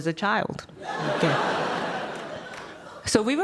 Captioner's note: audience laughing